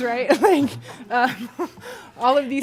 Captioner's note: laughter